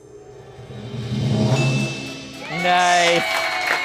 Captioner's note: bell dings; audience applauds